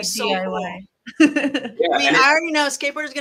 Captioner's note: laughs